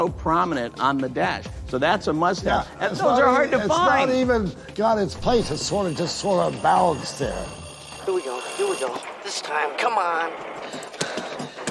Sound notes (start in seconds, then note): 5.2 ringing